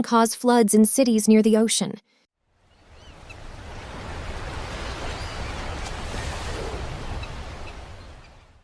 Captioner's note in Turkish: Etki: Dalga ve martı sesleri